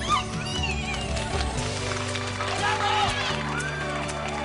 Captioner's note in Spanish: Aplausos